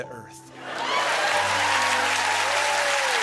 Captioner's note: cheers and applause